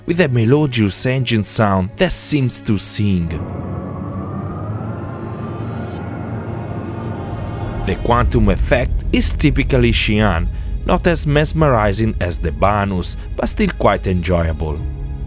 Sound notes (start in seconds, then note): 3.5 engine sound